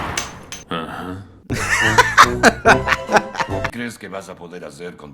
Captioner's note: laughs